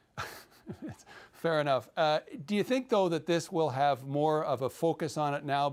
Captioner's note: chuckles